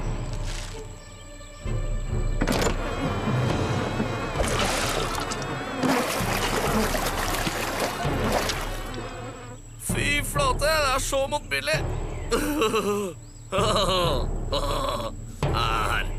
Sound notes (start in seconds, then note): 13.5 laughs